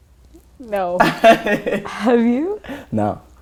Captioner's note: laughter